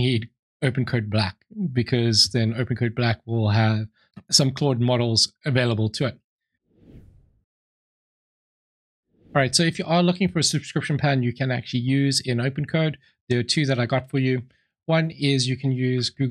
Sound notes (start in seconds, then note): 6.8 whoosh; 9.0 whoosh